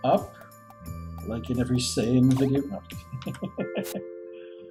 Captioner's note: chuckles